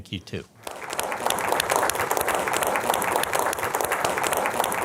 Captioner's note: audience applauding